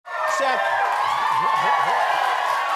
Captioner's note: cheering